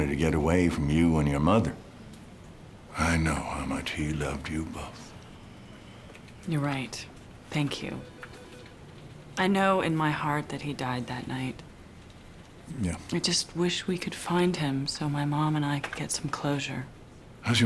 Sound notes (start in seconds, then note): none